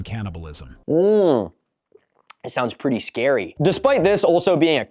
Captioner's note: sarcasic voice